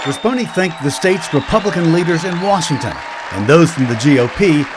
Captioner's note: applause